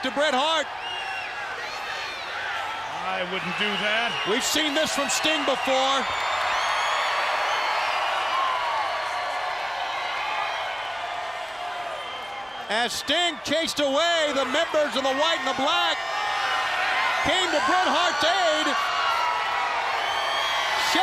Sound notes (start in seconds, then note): 2.8 crowd chatter; 6.3 crowd cheering; 7.9 crowd chatter